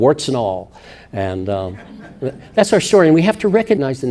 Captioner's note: audience laughing